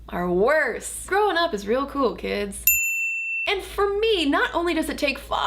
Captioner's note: bell chimes